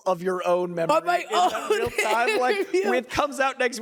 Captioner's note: laughs